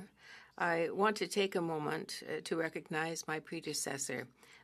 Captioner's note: speaking French